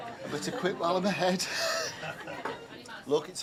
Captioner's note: chuckles